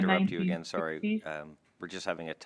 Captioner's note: speaking French